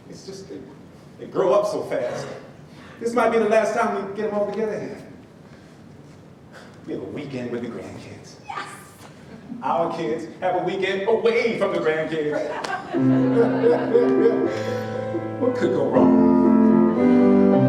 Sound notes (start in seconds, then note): 12.3 laughs